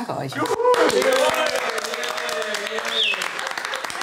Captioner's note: applause